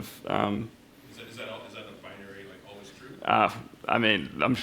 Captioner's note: voiceover